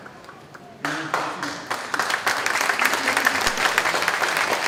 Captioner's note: clapping